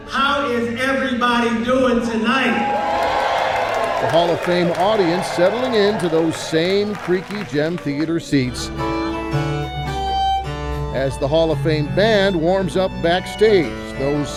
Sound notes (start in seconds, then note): 2.0 crowd cheering; 9.0 upbeat music